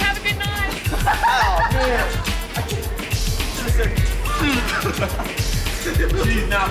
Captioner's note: laughing